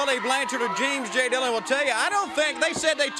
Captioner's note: crowd cheering